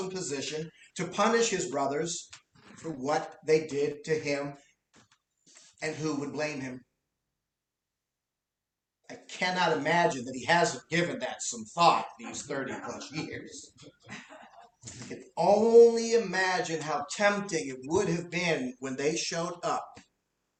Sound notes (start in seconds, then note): 12.8 laughter